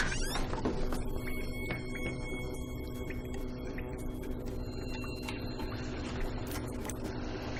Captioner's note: water leaking sound, electricity sound effect